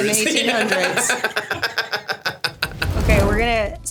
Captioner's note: Stavros laughs